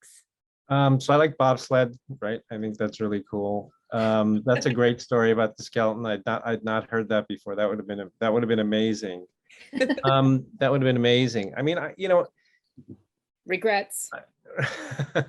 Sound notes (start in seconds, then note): 9.7 laughs; 14.6 laughs